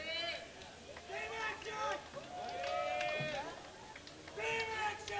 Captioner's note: cheering and clapping